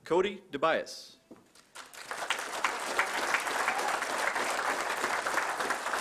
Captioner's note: applause